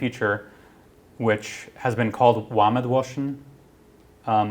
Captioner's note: non-english speech